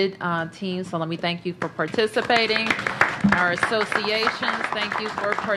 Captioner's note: applause